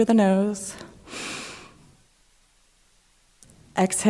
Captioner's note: inhaling